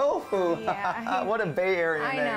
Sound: laughing

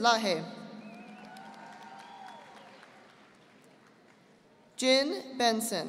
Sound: audience applauding

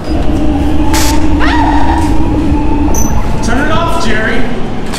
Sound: electricity crackles

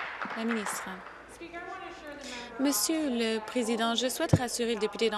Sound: applause

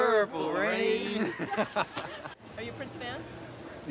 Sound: men laughing

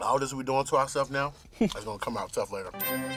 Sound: classical music; bell dings

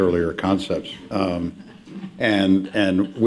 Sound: laughter

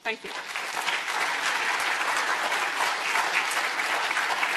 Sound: audience applauding

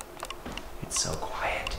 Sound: quiet motor humming

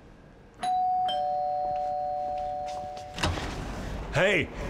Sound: doorbell Rings

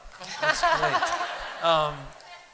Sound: laughter

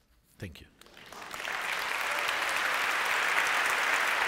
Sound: applause

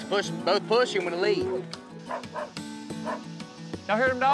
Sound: dog barking

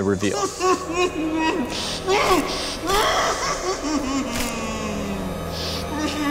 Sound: man screams and cries

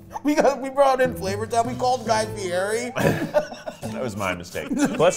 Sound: laughing

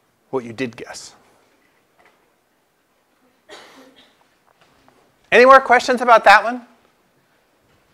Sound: cough

